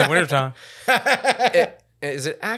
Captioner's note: laughing